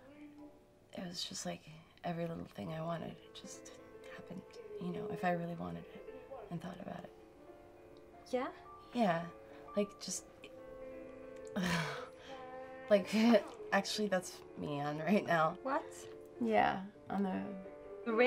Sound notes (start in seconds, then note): 11.6 laughing